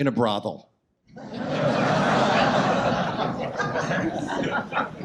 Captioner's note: audience laughs